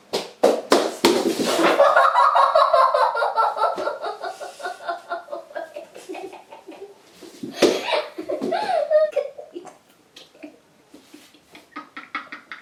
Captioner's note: laughing